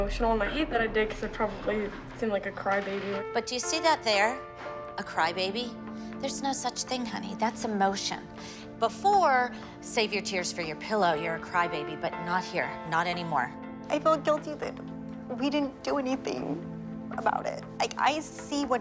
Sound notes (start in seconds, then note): 13.7 voice breaking